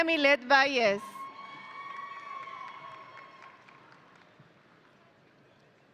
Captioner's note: audience cheering